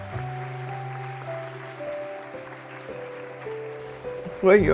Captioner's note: soft music; audience applauding